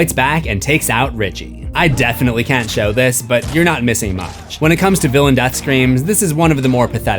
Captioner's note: none